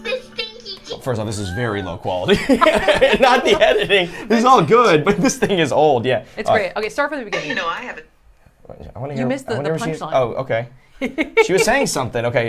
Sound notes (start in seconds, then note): 2.2 group laughs; 11.1 giggles